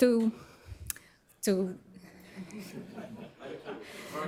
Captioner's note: laughter